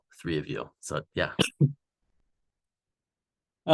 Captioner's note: sneezing